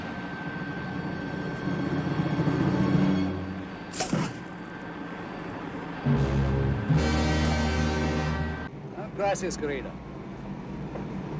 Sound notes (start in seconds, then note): 4.0 pop, thud